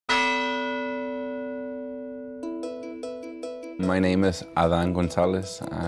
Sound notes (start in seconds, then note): 0.1 bell ringing